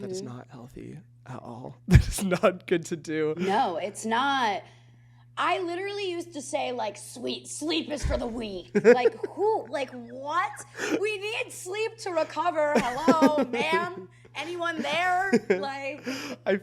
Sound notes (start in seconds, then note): 8.7 chuckles